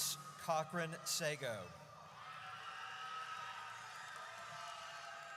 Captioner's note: audience cheers